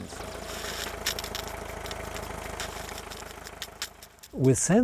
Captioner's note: machine roars